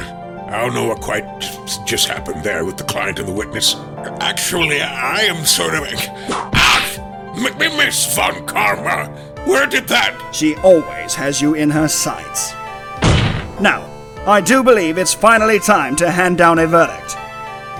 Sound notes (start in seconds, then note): 6.5 whip crack